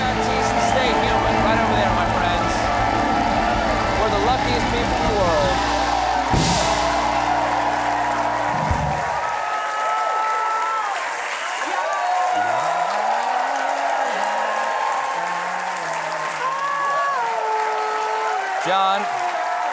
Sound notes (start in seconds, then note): 8.2 applause; 8.2 cheers and applause